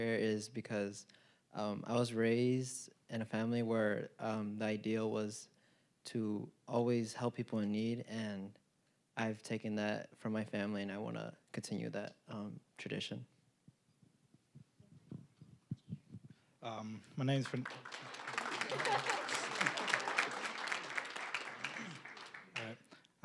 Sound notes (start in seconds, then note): 17.2 applause; 18.1 high school students laughing; 18.8 applause